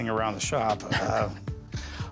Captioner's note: chuckles